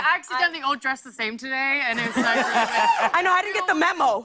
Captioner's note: laughter and cheers